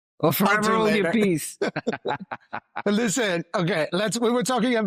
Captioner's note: laughs